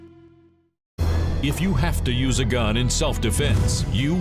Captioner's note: voiceover